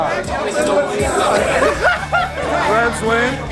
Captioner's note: laughter